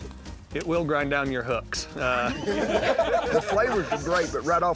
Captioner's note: laughter